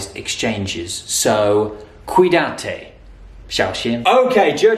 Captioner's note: Spanish